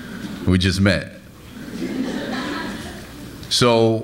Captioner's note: laughs